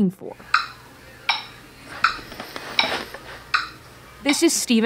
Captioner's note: rhythmic ticking